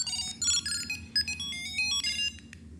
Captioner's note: phone ringing